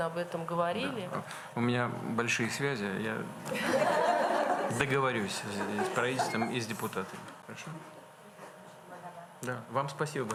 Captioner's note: laughter